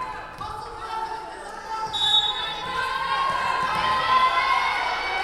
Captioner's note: whistle blowing